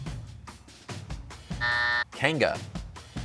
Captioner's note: buzzer sounds